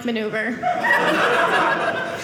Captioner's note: audience laughing